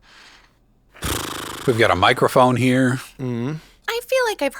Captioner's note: exhales heavily